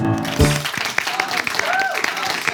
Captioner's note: audience claps